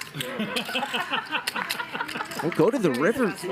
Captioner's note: laughing